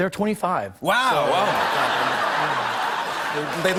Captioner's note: laughter